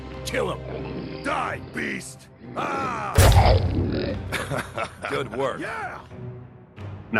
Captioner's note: laughing